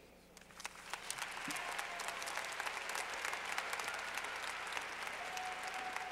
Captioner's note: clapping